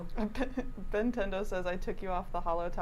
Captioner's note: chuckles